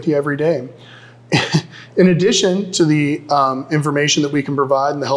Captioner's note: chuckles